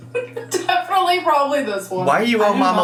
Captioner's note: giggling